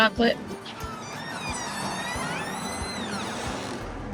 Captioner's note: door squeaking